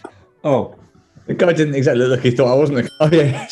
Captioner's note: giggling; ding!